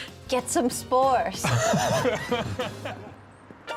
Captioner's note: laughter